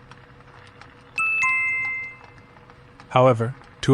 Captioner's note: chime